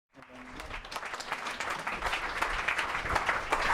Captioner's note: crowd applause